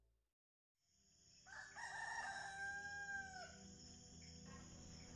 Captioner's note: farm sounds